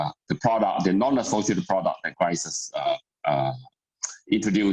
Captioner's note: murmur